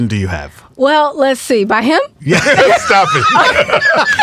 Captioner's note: all laughing